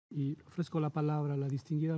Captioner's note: Spanish